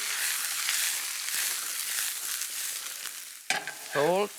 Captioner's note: pan sizzling